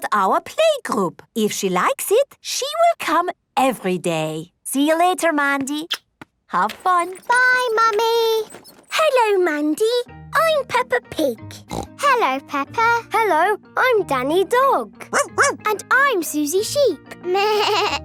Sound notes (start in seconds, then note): 11.6 snorting; 15.1 barking; 16.9 bleating